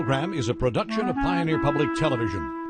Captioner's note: voiceover